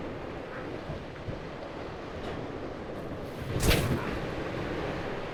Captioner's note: waves crashing